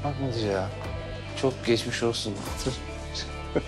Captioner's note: laughs